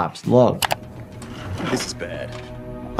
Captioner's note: cart wheels roll